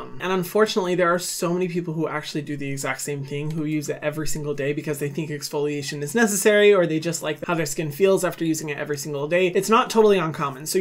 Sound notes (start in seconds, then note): none